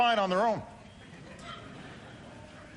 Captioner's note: laughter